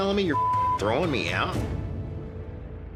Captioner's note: beep